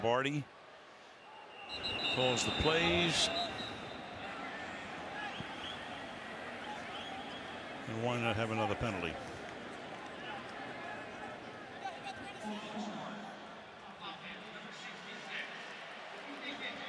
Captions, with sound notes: So Joe Lombardi calls the plays. [whistle] And why not have another penalty? [referee call]